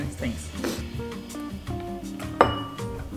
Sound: sniffling; plates and spoons clinking

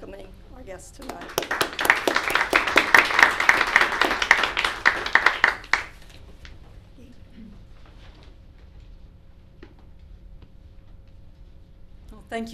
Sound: applause

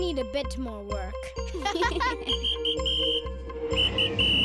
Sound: whistle blowing; laughing

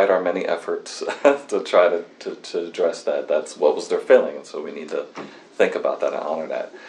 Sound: laughs

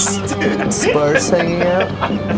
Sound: band members laughing

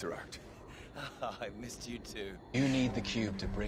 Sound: whilst giggling

